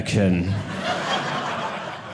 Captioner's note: audience laughing